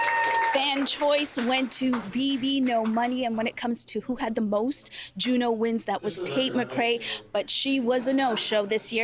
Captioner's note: cheers and Applause